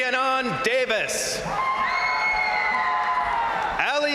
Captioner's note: crowd cheering; crowd applauding